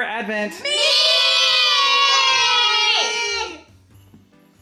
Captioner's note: everyone shouting